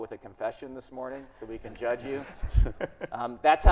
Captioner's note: audience laughing